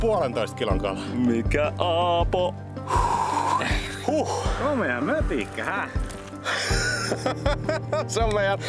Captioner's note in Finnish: naurua